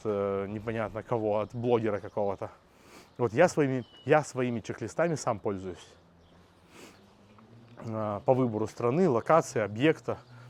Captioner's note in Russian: фыркает